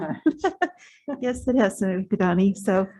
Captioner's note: laughs